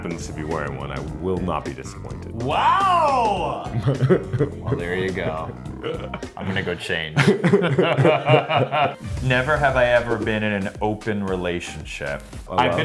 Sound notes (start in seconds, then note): 3.7 Luke chuckles; 7.6 Luke and Billy laugh